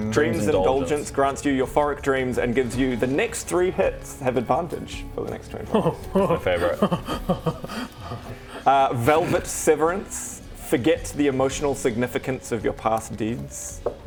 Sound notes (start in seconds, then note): 5.7 too excited noises